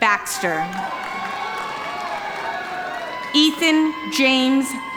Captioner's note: audience applauding